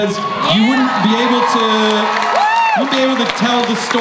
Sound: crowd cheers

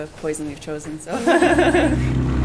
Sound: laughing

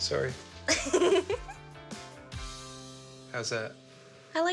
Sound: giggles

